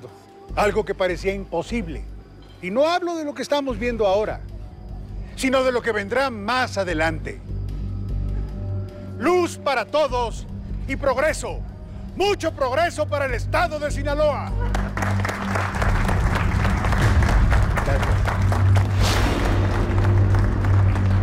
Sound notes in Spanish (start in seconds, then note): 14.6 Aplausos